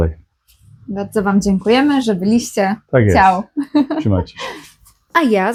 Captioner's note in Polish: śmiech